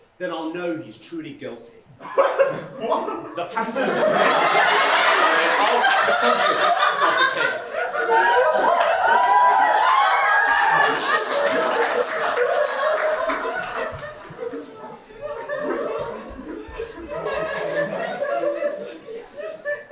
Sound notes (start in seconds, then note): 11.6 “What?” audience laughter